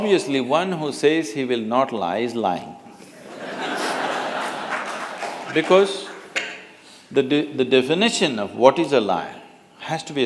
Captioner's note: laughter